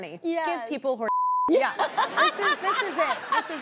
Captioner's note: beeps; laughs; audience laughing